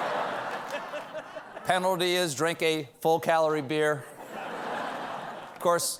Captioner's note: laughter